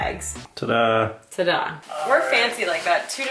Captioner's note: sarcastically